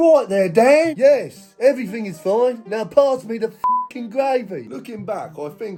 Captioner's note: beep